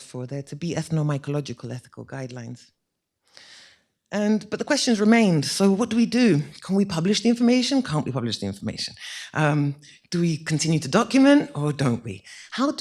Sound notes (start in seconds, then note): none